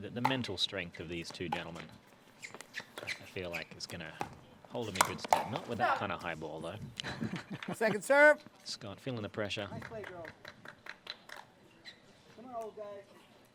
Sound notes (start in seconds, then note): 7.6 laughs